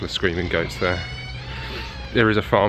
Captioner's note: goats bleating